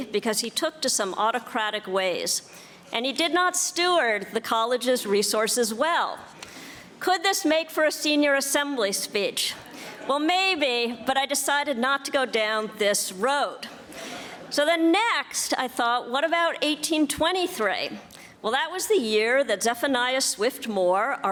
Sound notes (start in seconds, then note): 9.5 audience laughing